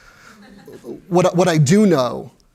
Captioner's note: laughter